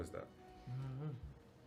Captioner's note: hums 'I don't know'